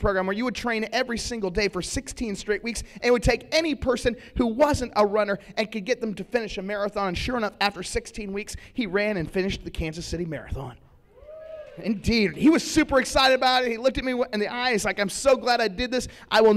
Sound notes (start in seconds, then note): 11.1 cheering